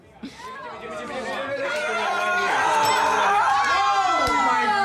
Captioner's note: cheering and razzing